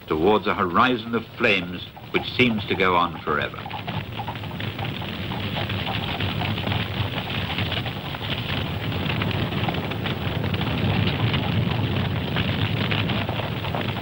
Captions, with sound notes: towards a horizon of flames which seems to go on forever. (horse hooves tapping) (flames blazing)